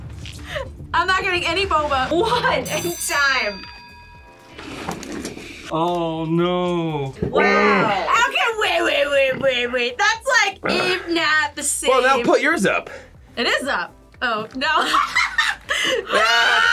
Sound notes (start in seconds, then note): 2.6 bell rings; 14.8 laughs